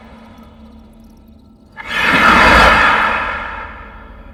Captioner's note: gasps